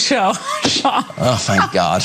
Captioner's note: laugh